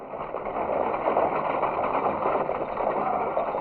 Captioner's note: horses galloping; stagecoach rattling